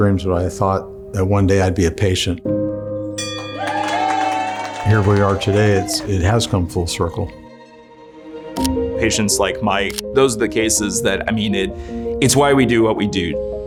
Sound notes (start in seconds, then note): 3.2 bell ringing; 3.2 cheering, applause